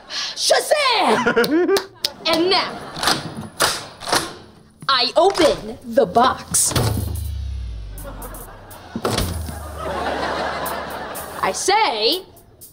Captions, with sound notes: Shazam! And now... [locks clanking] I open the box! [laughing] I say...